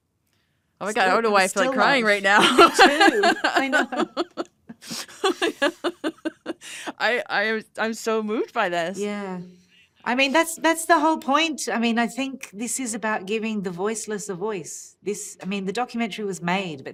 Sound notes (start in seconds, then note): 2.3 laughs